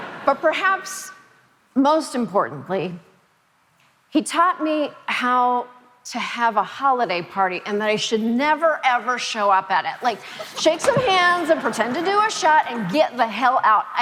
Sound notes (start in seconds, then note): 10.3 Jon laughing